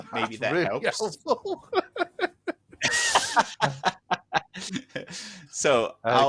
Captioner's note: laughter